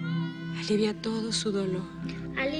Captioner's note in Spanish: Gritos